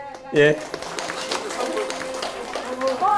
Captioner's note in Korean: 박수